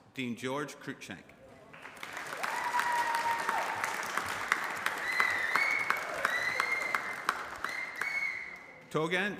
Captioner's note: applause